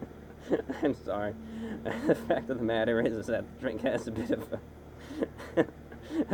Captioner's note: laughing